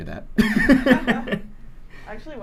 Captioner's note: laughter